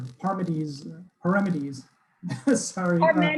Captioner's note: laughs